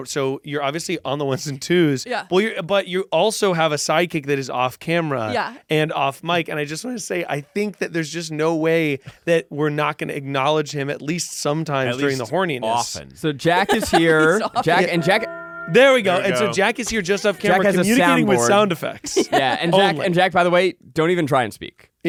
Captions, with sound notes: so you're obviously on the ones and twos. - Yeah. - But you also have a sidekick that is off camera. - Yeah. - And off mic. And I just wanna say, I think that there's just no way that we're not gonna acknowledge him at least sometimes during the horniness. - Often. - So, Jack is here. And Jack... (bell tolls) - There we go. And so Jack is here just off camera communicating with sound effects. - Jack has a soundboard. Yeah, and, Jack, by the way, don't even try and speak.